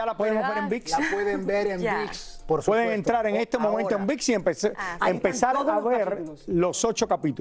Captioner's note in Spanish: risas